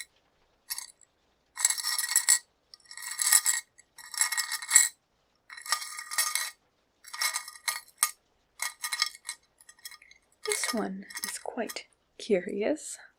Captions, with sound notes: [jewelry clinking] This one is quite curious.